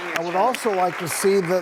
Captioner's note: audience applause